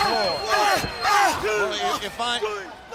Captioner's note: crowd chatter